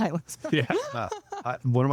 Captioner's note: laughing